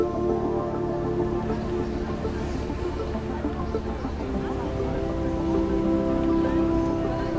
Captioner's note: people chattering; gentle music continues; birds chirping